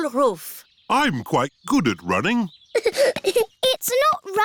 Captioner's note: giggling